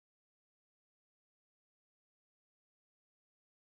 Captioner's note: none